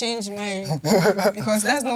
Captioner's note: laughs